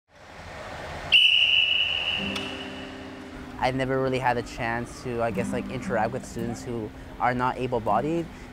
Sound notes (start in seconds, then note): 1.1 whistle blows